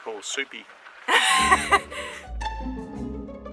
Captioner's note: laughing; lighthearted piano music